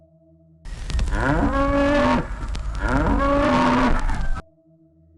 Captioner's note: animal bleating